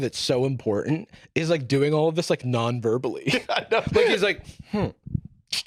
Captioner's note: laughing